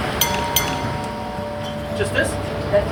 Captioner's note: doorbell